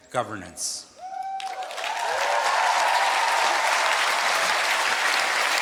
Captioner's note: cheering